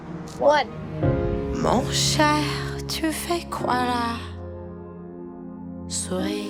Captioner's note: French